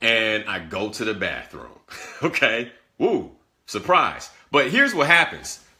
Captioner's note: laughter